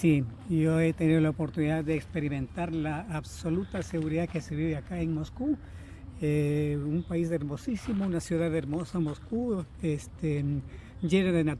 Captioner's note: is speaking Spanish